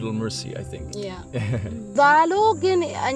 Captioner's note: laughs